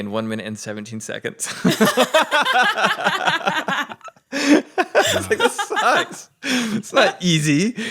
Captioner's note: laughs